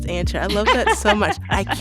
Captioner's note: laughter